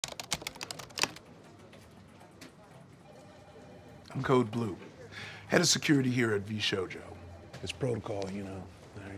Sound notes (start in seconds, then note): 0.0 keyboard clacking; 2.9 phone faintly rings